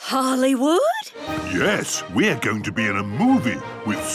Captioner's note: none